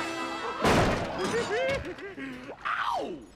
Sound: laughing

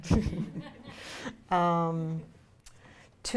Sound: laughs

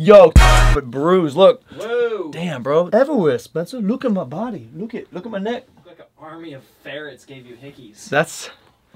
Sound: whispers

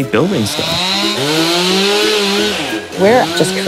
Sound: chainsaw buzzing

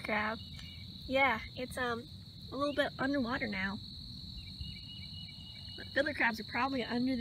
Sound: crickets and birds chirping

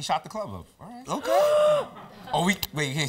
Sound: gasps

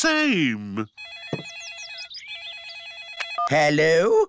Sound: phone rings

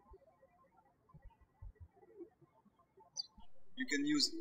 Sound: birds chirping

